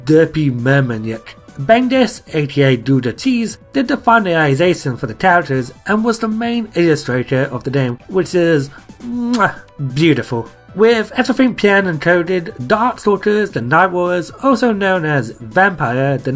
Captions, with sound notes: derpy merman look. Bengus aka Gouda Cheese did the finalisation for the characters & was the main illustrator of the game which are [kissing noises] beautiful. With everything planned & coded, Darkstalkers the Night Warriors also known as Vampire the